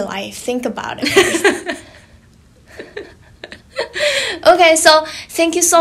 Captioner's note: laughing